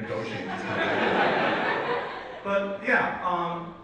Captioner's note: audience laughs